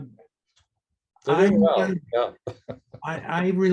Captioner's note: laughs